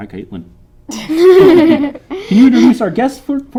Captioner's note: laughing